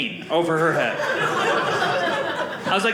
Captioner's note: audience laughing